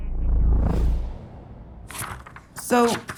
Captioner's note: graphic whooshes; pages rustling